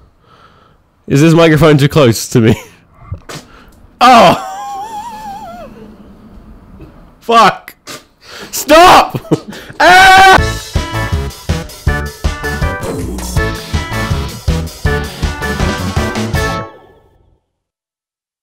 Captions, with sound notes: Is this microphone too close to me? Fuck. Stop. (screaming) (upbeat music)